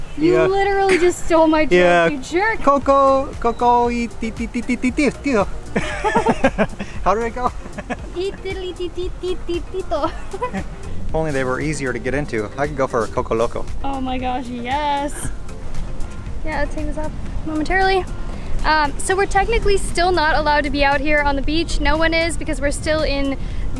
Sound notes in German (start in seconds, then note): 5.7 Gelächter; 7.4 Lacht